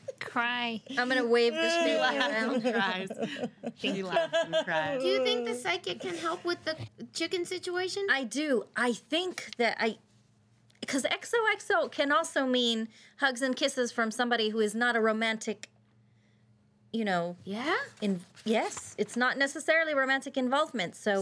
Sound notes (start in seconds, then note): 4.8 crying